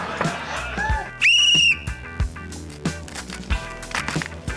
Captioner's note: blows whistle; upbeat music continues